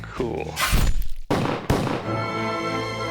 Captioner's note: gun shooting